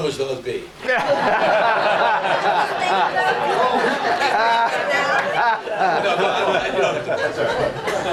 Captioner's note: audience laughs